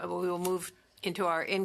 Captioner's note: speaking French